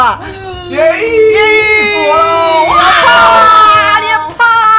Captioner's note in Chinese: 歡呼聲連連